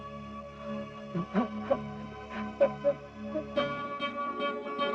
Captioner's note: crying